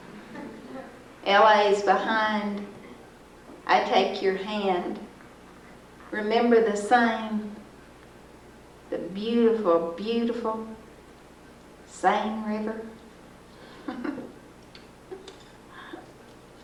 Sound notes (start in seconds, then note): 10.3 giggles